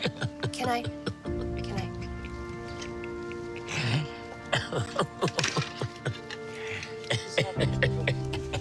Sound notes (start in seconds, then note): 3.2 sobbing